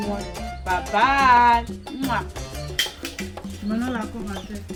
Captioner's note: kisses